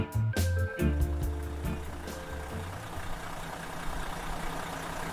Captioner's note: engine rattling